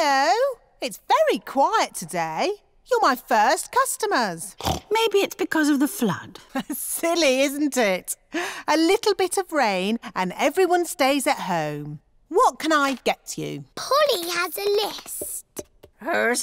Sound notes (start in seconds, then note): 4.5 snorts; 6.9 laughs